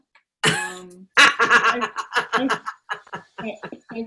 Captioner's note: laughs